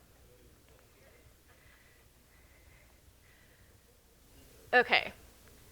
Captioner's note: people chatter faintly